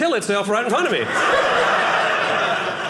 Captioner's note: audience laughing